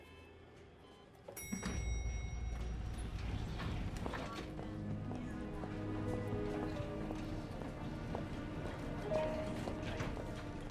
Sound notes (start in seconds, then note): 1.3 elevator door dinging